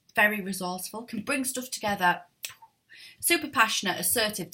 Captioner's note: clicks